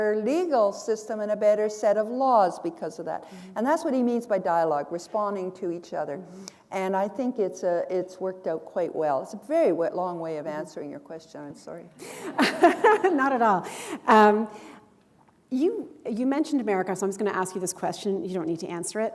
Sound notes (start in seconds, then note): 12.0 chuckle